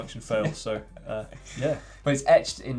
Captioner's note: laughs